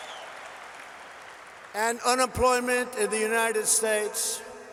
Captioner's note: applause